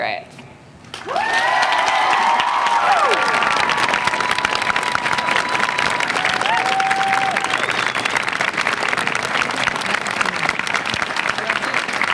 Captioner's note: applause